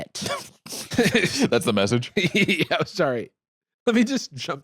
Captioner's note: laughs